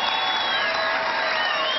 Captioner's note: cheering